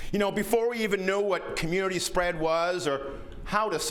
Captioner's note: none